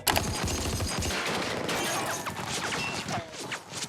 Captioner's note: gunshots ring